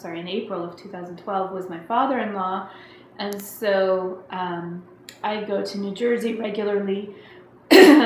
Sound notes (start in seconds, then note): 7.7 clearing throat